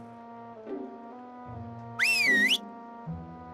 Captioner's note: whistles